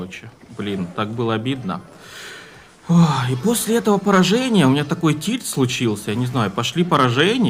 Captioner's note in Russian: тяжело вздыхает